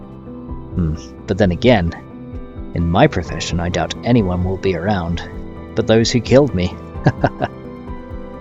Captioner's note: laugh